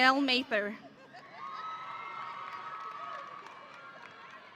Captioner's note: audience cheering